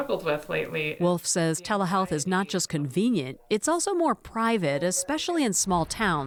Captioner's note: voice-over